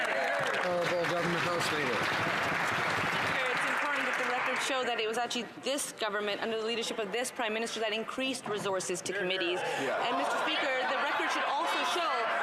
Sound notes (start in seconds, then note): 3.2 some Applause